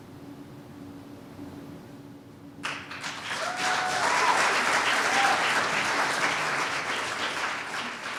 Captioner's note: cheers and applause